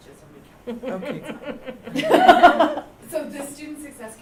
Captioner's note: laughter